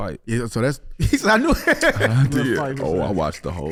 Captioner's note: HaHa laughs